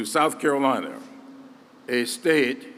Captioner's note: none